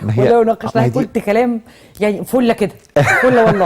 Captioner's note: laughs!